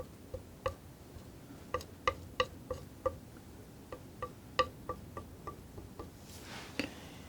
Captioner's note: tapping